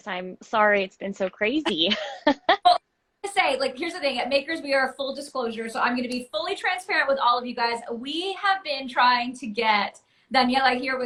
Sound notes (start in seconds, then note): 1.7 laughs